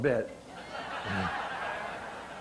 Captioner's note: audience laughter